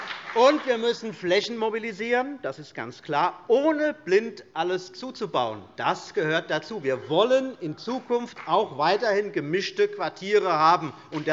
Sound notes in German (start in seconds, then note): 0.0 Beifall CDU und BÜNDNIS 90/DIE GRÜNEN; 6.2 Beifall